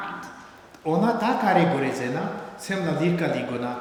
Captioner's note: speaking tibetan